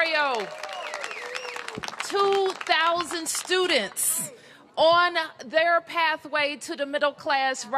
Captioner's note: cheers and applause